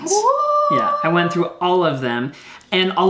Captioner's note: squeals